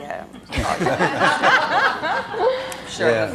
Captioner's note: audience laughing